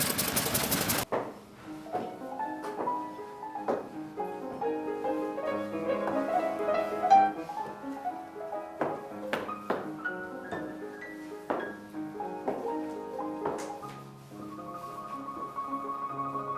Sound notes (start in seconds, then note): none